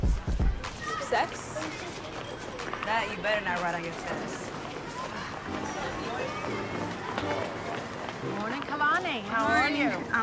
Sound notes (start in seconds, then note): 4.4 overlapping chatter